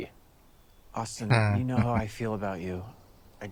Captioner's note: chuckling